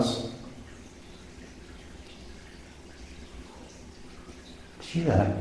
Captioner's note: water dripping